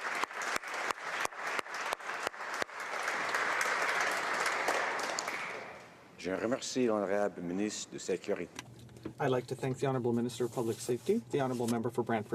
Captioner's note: applause